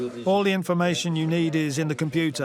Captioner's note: foreign language spoken audio